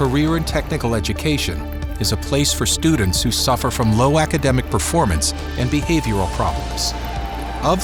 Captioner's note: lighthearted music; electrical buzzing